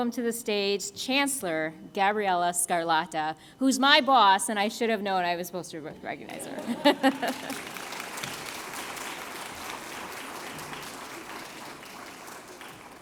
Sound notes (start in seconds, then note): 6.3 applause; 6.4 laughs